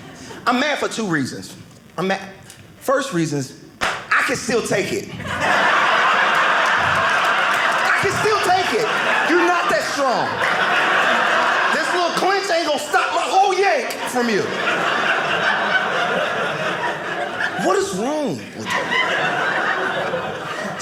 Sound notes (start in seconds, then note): 5.5 audience laughing; 14.8 audience laughing